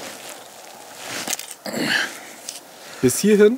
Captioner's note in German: Er ächzt